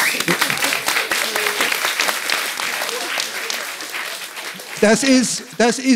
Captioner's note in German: Applaus